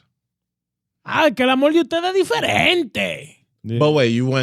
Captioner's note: speaking In Foreign Language